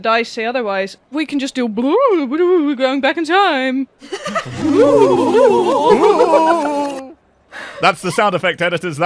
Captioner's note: rewinding noises